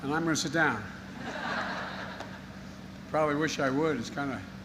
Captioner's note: laughter